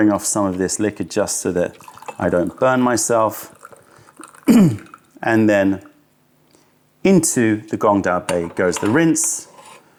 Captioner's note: pouring tea